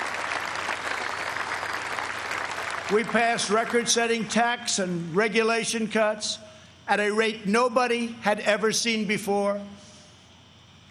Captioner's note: applause